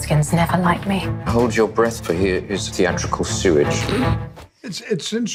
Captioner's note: laughs